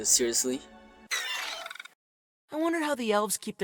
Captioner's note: termite sounds